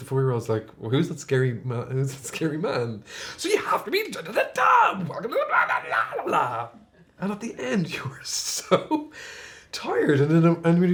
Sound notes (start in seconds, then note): 6.6 babbles